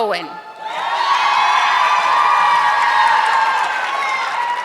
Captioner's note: audience clapping